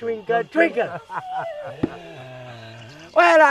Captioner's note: doctor laughs